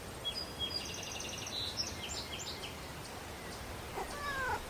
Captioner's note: birds chirping